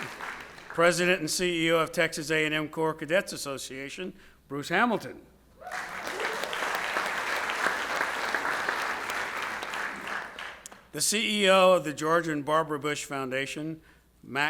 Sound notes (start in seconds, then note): 0.0 audience applauds; 0.0 audience cheers; 5.6 audience cheers; 5.6 audience applauds